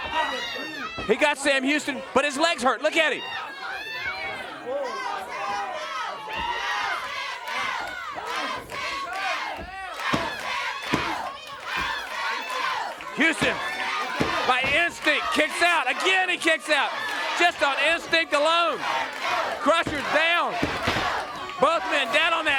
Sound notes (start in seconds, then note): 8.7 crowd cheering; 18.5 crowd cheering